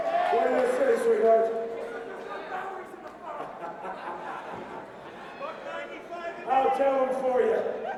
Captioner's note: crowd chatter